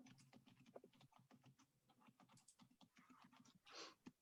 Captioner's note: keyboard keys clicking